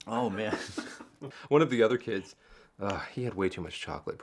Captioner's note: Michael laughs